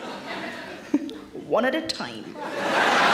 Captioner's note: Sarah chuckles